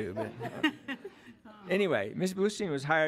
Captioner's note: audience laughs